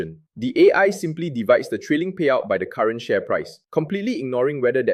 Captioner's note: sarcastic